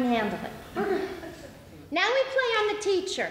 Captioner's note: audience laughs